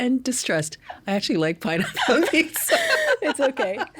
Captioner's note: laughing